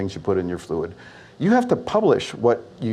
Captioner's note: none